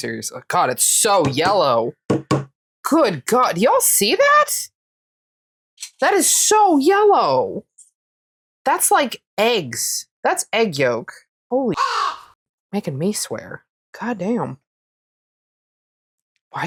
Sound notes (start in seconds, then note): 11.7 caw